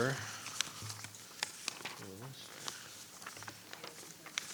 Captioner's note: papers rustling